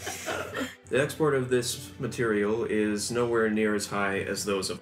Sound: laughter

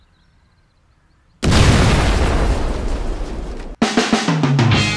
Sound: birds chirping; meteor exploding; upbeat action music

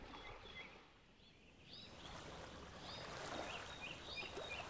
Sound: birds tweeting

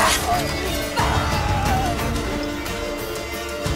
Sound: grunt; battle cry; cries out

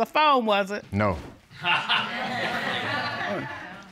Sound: laughter

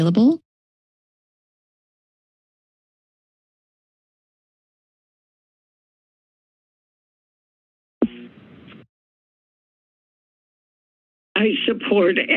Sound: silence

